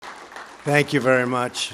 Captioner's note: applause